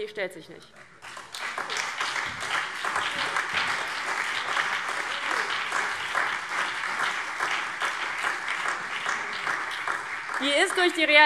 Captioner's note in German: Beifall DIE LINKE, CDU, BÜNDNIS 90/DIE GRÜNEN und vereinzelt SPD